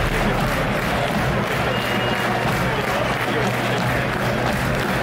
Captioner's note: crowd clapping